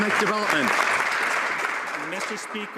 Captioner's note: some Applause